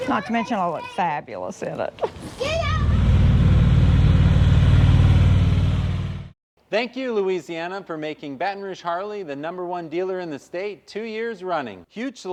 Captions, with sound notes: not to mention I'll look fabulous in it. (motorcycle engine roaring past)